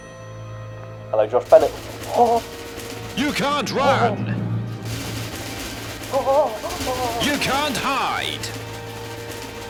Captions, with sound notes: Hello, Josh Bennett [Sheets of paper flutter angrily] You can't run. [Fluttering intensifies] You can't hide.